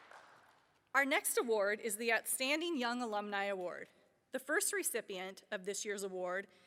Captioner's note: applause